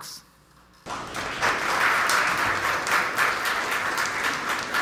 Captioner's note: audience applauds